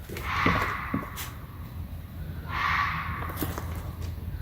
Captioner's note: bobcat screeching